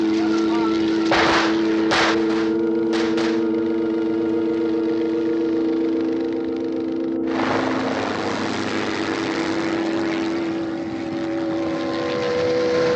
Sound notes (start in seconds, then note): 1.0 gunfire